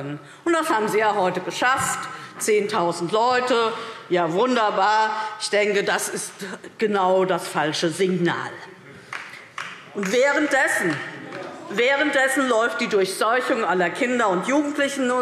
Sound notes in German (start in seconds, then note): 9.0 Beifall